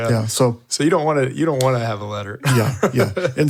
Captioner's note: laughs